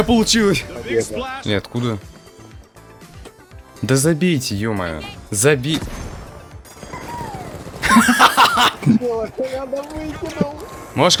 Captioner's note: laugh